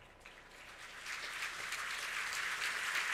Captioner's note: applause